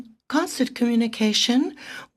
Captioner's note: speaking French